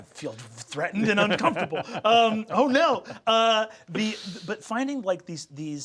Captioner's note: Sam laughing